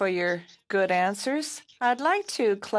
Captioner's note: speaking French